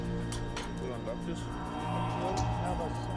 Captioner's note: men speaking German